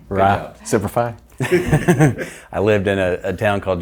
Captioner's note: laughs